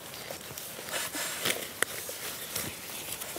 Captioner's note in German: Rascheln, Reißverschluss